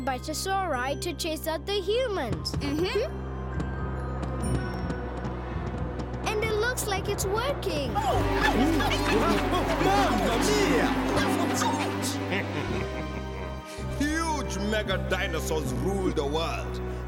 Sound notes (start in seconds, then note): 2.9 thudding; 7.9 all shouting; 11.7 chuckles